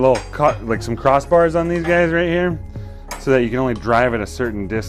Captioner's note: welding mask clanks